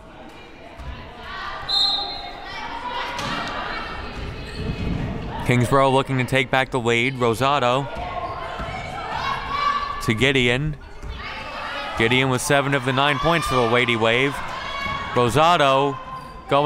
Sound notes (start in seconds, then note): 1.6 referee blows whistle